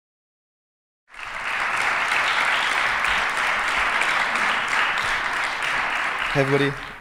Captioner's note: applause